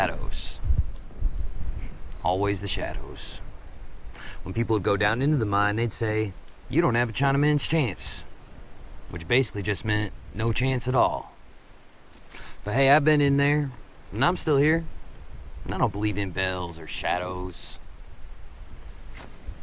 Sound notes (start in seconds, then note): 0.1 insects chittering; 10.9 insects chittering; 17.3 insects chittering